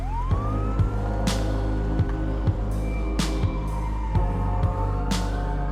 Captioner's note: siren wailing